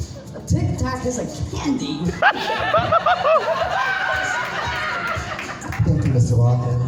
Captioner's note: audience erupts